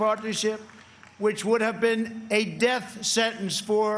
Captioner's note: applause